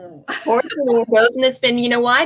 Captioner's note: laughing